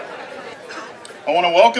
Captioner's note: background talking